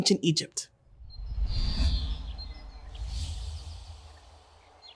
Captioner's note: birds chirping